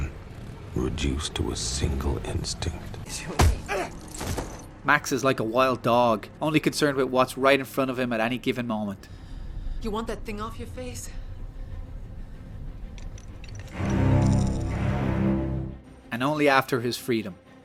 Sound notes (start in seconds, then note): 3.4 whack!